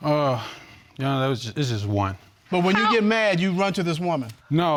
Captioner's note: sighs